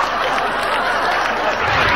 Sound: audience laughing

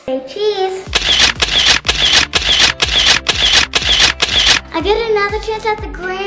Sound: camera shuttering

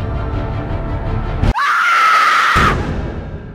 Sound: loud shriek

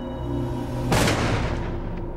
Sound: gunshot

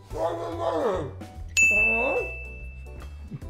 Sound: ding

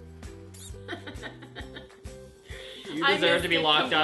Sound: laughs

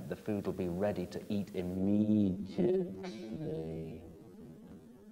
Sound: audio slows

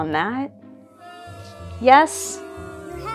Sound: jeering and booing returns

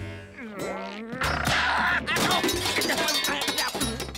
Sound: groaning

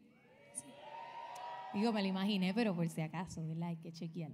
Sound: audience cheering

